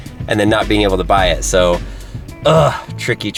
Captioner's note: groaning